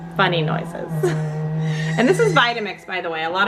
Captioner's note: machine whirring